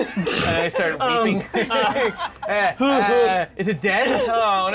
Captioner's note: laughing; whiny crying sounds